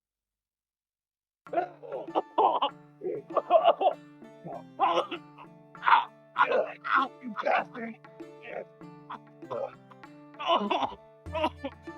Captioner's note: fighting noises